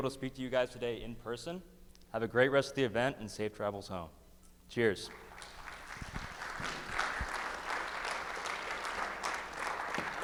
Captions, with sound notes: to speak to you guys today in person. Have a great rest of the event and safe travel's home. Cheers. (crowd clapping)